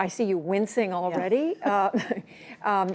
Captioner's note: laughter